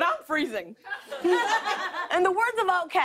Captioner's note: laughter